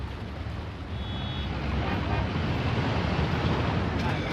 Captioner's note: car horns